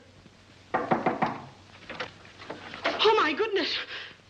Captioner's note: knocking at door; door opens